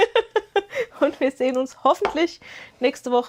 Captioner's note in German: gelächter